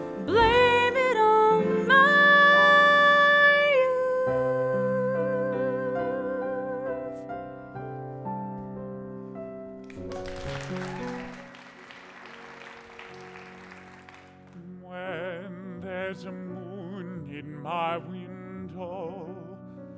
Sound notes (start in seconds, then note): 9.8 applause